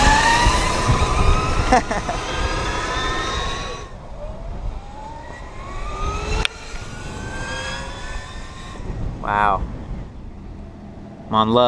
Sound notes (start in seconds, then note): 1.6 laughs; 5.9 engine roars